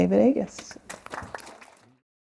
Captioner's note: applause